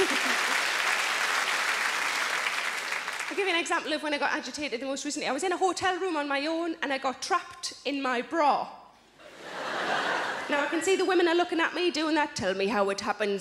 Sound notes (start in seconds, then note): 0.0 giggles; 9.2 audience laughs